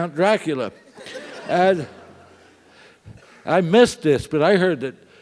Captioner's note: laugh